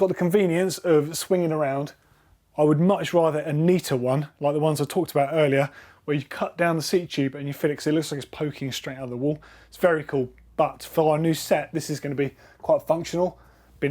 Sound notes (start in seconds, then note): none